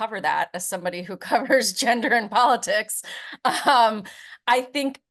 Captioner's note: chuckles